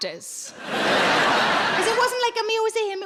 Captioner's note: audience laughing